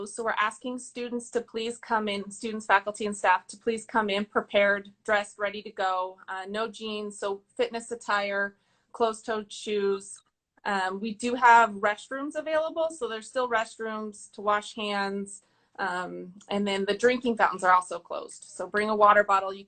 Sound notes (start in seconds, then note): none